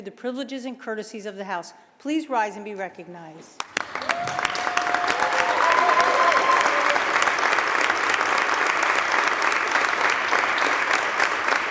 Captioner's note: applause